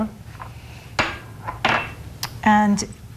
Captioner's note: bowls clanging